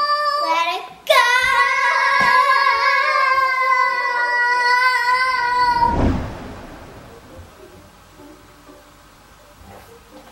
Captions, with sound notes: - Ready, gooooo! (both girls shouting) (light playful music)